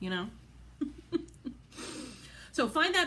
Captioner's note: laughs